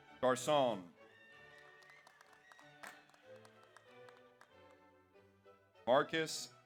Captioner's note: audience cheers; audience applauds